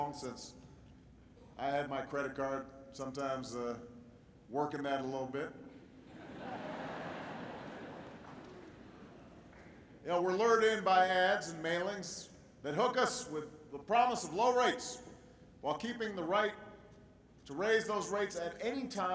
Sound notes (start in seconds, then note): 6.6 applause